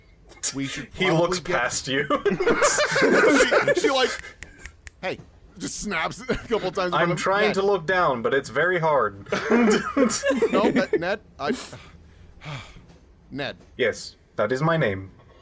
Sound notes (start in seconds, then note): 4.1 finger snapping